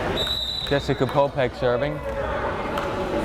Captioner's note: whistle blares